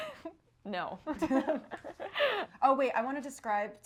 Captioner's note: both laughing